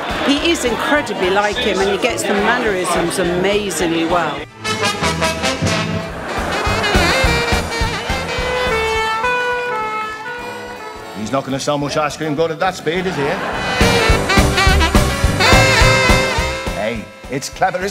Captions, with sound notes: He is incredibly like him and he gets the mannerisms amazingly well! [LAUGHTER] [SIRENS] He's not going to sell much ice cream going at that speed is he eh? Ey, It's clever isn't it?